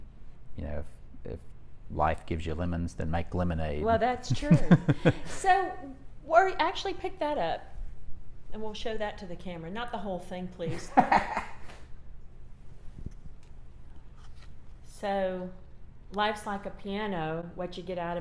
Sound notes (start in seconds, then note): 4.4 both laughs; 10.7 laughs